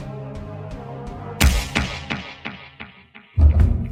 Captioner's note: resounding whack